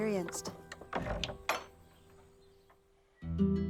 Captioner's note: gate shuts